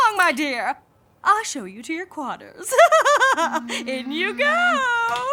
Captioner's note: laughs